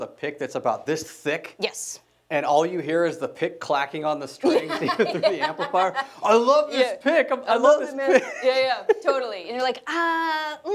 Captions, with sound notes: that's about this thick? - Yes. - And all you hear is the pick clacking on the strings. - Yeah (laughs). - Even through the amplifier. I love this pick! I love this pick! - Yeah, yeah, totally and you're like, ahhh,